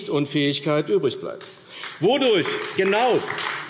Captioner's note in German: Beifall AfD